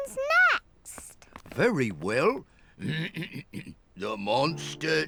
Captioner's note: clears throat